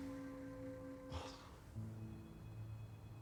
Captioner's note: scoffs